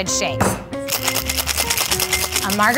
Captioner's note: drink sloshing